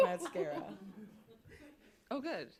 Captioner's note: laughter